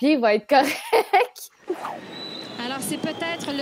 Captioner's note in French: rires